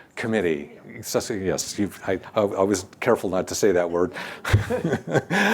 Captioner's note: laughs